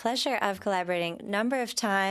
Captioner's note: speaking French